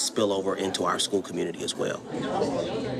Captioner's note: students chatter excitedly